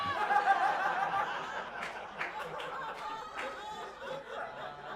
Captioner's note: audience laughing